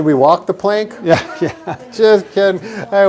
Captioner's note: giggling